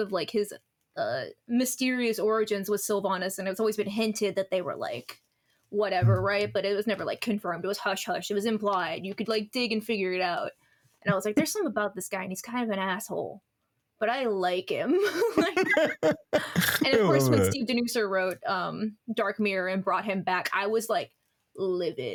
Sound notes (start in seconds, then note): 15.0 laughing